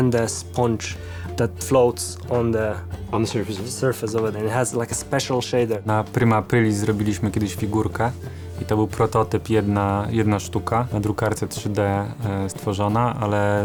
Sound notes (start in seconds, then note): 5.9 in Polish